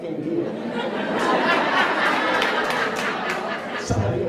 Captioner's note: laughs